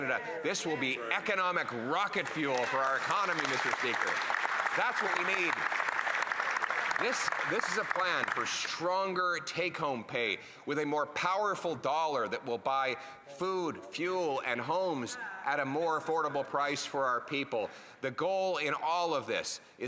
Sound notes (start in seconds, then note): 9.2 applause